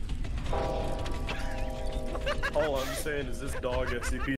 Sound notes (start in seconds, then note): 2.1 Class D laughs